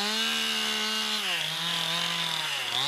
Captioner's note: chain saw noise